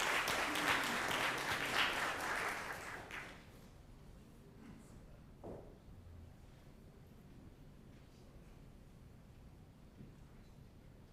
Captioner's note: applause